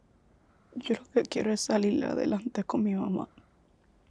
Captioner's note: Spanish